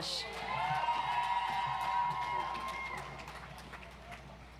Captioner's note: audience applauds